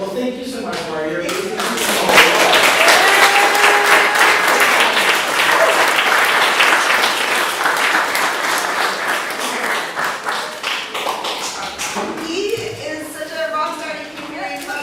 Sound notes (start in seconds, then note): 1.5 audience applause. hug